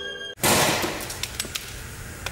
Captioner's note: splat